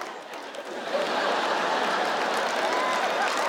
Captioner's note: audience laughs; audience applauds